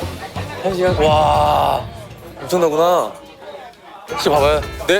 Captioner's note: bustling